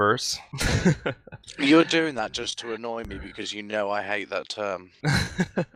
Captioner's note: laughing; wryly; laughing